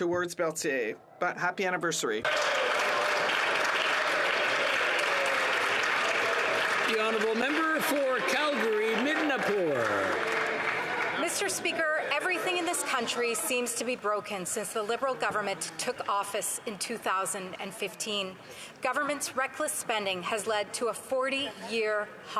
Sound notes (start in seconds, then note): 11.8 some Applause